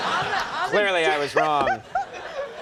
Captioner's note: audience laughing